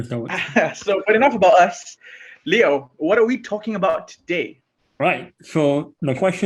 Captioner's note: laughs